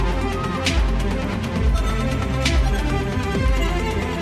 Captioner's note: audience cheering